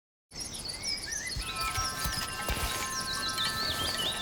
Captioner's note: birds chirping